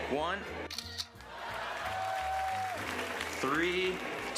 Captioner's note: camera shutter clicks